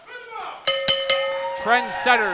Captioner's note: bell dinging